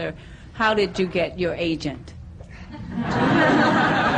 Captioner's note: laughter